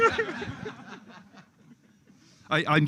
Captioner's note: laughter